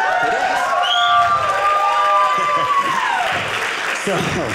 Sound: audience cheering

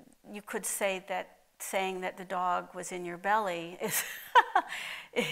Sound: laughs

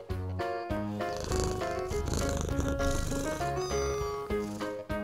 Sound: cats purring, meowing

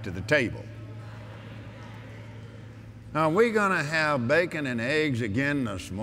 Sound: audience Agrees

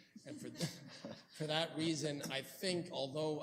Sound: laughter

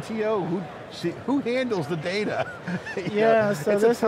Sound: laughing

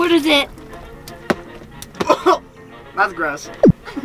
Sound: pickles thudding; gagging; special effects blooping

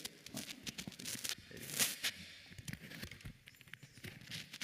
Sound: microphone crackling

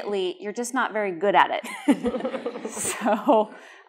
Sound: laughter

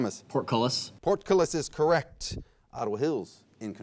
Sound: none

